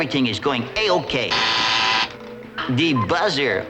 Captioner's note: buzzer